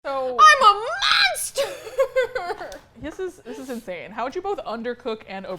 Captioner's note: sobs